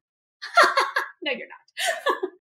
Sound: laugh

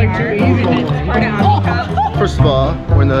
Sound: people chattering

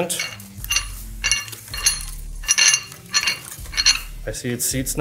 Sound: metal rattling

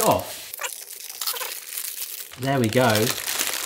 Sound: paper rustles

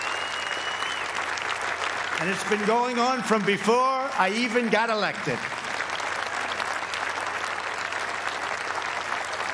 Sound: applause

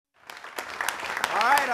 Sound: clapping

